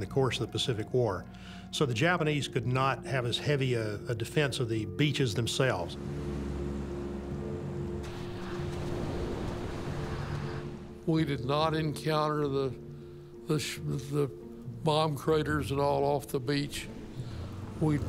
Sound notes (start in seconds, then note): 6.5 ominous instrumental music; 8.4 waves swishing